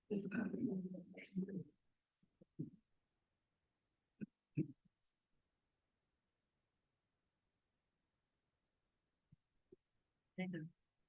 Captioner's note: background chatter